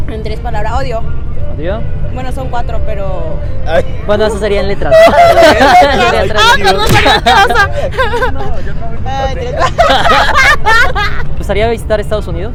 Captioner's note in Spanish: risas